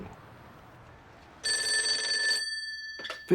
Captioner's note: phone ringing